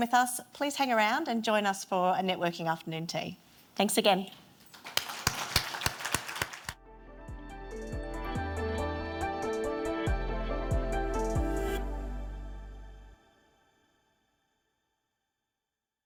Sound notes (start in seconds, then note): 4.7 everyone applauding; 6.8 light music